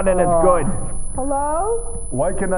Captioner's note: high pitched ringing